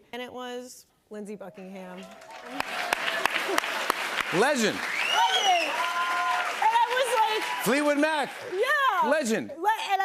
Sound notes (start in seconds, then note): 2.0 applause